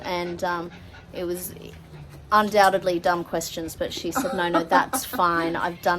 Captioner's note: laughs